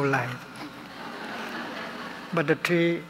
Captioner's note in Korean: 청중 웃음